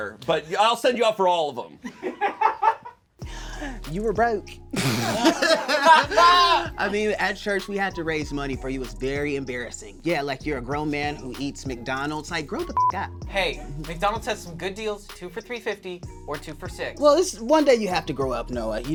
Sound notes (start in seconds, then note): 1.9 and crew laugh; 4.8 all laugh; 12.6 beep